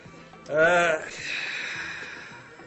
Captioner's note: vlassis sighs